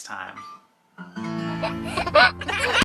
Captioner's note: baby chuckles